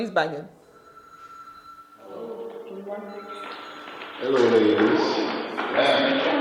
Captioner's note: phone ringing